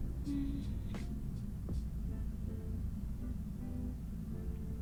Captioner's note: humming